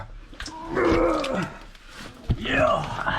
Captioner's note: roar!